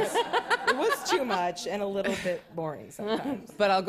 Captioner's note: laughter